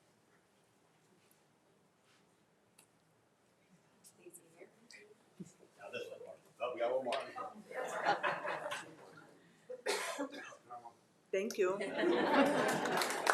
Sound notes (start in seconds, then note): 7.7 crowd laughing; 11.8 crowd laughing